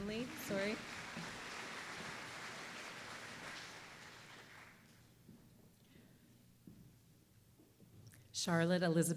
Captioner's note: applause